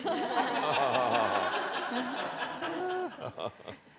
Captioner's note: audience laughs